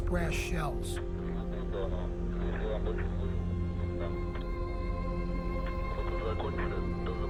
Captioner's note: man speaking in foreign language; speaking in foreign language